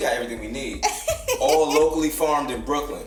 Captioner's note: laughs